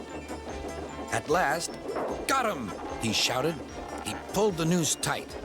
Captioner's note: creaking